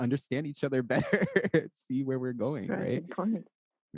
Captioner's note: laughs